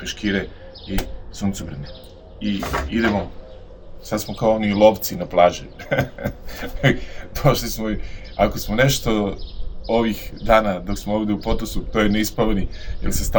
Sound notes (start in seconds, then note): 5.7 laughs